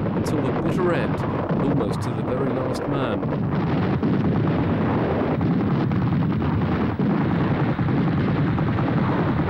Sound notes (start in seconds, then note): 3.3 artillery firing